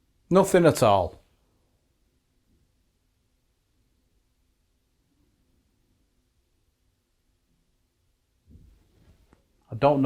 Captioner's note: silence